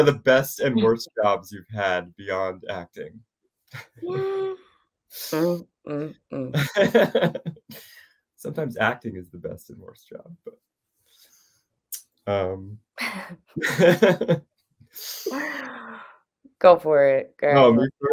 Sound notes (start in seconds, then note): 6.5 laughs; 13.6 they both laugh